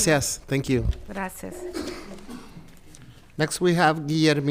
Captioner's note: speaks in foreign language; speaking in foreign language